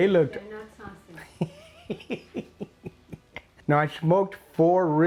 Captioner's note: man laughing